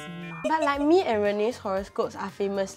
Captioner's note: giggles